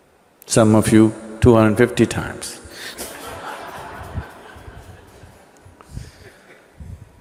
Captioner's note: laughter